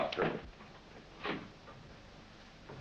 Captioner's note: door opens